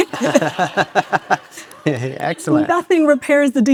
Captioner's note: laughs; audience cheers